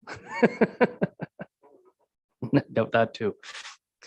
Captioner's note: laughs